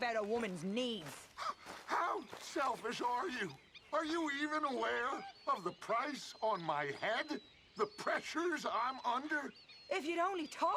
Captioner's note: laughs